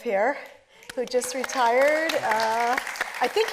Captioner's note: audience applauding